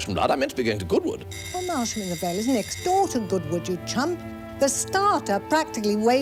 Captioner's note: doorbell